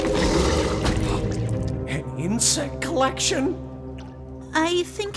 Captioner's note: gasps